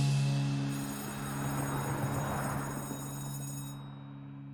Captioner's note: school bell ringing